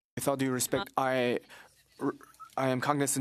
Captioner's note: speaking French